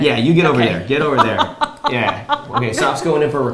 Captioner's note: laughs